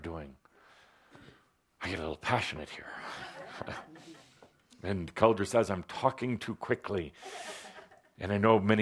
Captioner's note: laughter